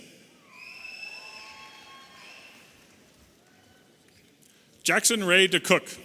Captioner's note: audience applauding and cheering